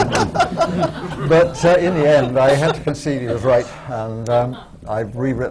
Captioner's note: laughter